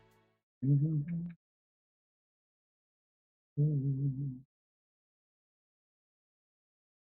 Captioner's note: humming